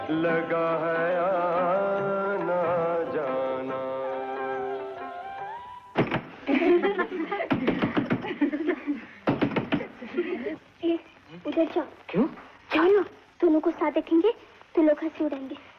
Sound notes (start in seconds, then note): 6.4 laughing; 6.5 knock On Door